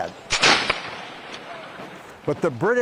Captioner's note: gun firing